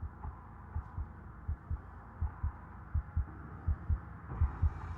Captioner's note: heartbeat thumping